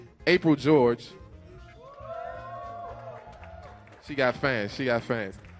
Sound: audience cheers and applauds

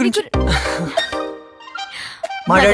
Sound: laughs

